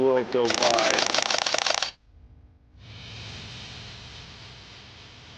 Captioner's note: camera shutter clicking